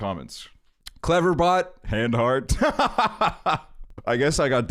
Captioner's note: laughs